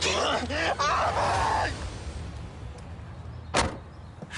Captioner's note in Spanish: Gritos